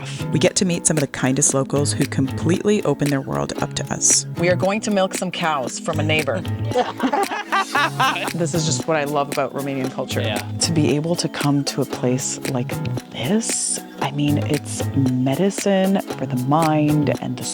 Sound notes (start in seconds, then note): 6.6 laughing